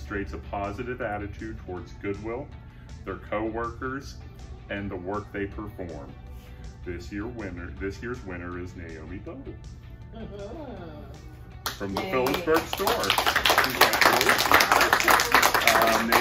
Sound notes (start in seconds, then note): 11.6 applause